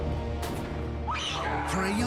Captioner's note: shrieks